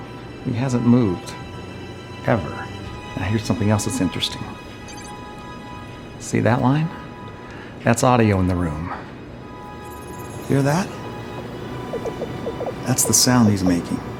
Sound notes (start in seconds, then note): 11.8 rapid blipping